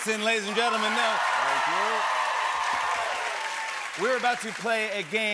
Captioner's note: cheers and applause